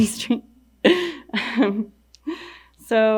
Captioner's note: laughing